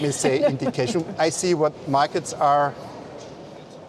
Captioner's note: laughter